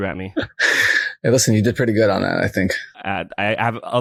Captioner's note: laughs